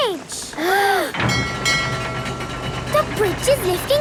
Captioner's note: kids gasping; bell dinging